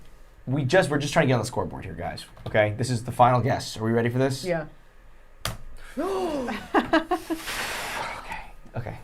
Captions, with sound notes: Someone's saying just put in acting. - We're just trying to get on the score board here, guys. Okay? This is the final guess. Are we ready for this? - Yeah. (gasping)